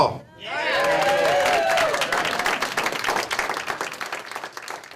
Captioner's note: cheers and applause